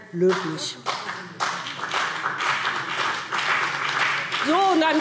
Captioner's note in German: Beifall BÜNDNIS 90/DIE GRÜNEN und CDU